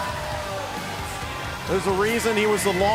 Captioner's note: cheers and applause